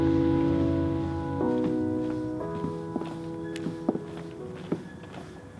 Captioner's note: music fades; footsteps approach